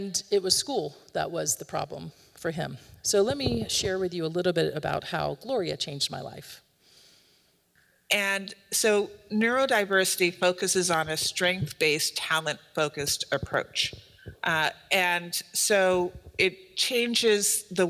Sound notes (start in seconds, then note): 7.7 audio recording plays